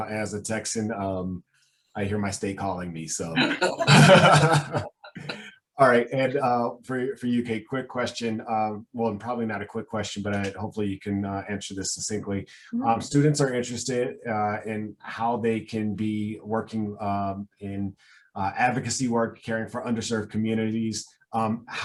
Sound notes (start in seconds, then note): 3.4 laughing